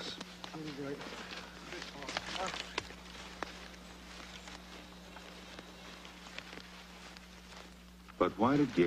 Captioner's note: men mutter, leaves and twigs crunch